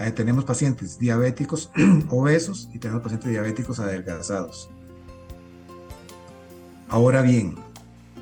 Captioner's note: clears throat